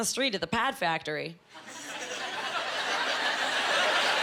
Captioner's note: laughing